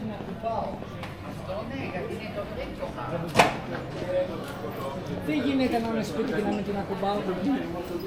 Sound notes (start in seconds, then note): 4.9 people chattering; 5.1 woman speaking in foreign language